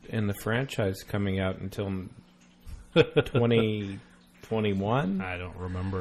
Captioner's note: DJ laughs